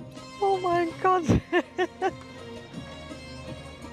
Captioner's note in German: Lachen